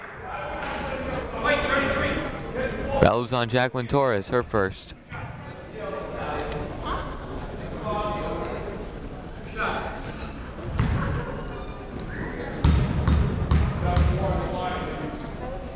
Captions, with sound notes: (people shouting in the crowd) That was on Jaclyn Torres, her first. (people talking in the crowd)